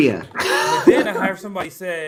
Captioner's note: laughs